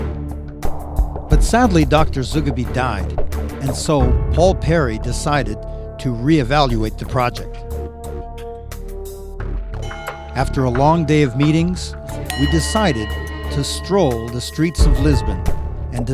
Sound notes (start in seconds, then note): 9.8 bell tolls